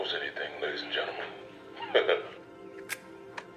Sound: chuckles

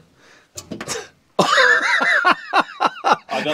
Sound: laughing

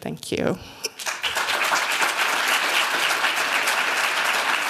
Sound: applause

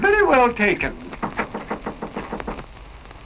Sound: knocking

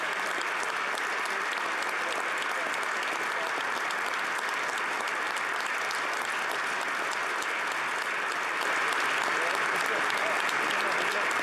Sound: applause

